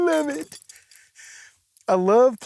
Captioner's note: in normal voice